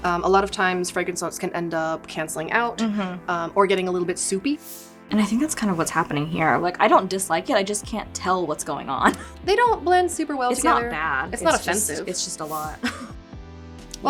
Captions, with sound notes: A lot of times, fragrance notes can end up canceling out, - Mm hmm. - Or getting a little bit soupy. (screen sliding) - And I think that's kind of what's happening here. Like, I don't dislike it, I just can't tell what's going on. (chuckles) - They don't blend super well together. - It's not bad. - It's not offensive. - It's just, it's just a lot. (chuckles) (screen sliding)